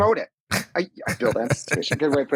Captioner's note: laughs